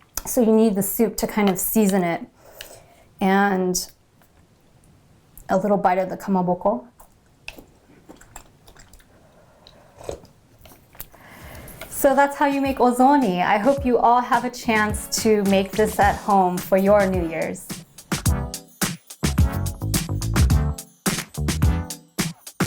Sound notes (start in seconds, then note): 10.3 slurping; 18.5 bright music